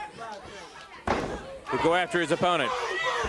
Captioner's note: crowd chatter